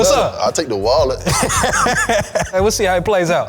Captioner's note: laughing